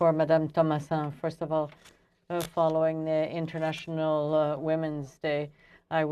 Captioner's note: speaking French